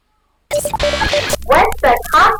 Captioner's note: static noise